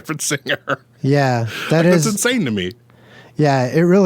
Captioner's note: laughs